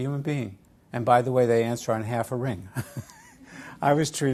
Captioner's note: laugh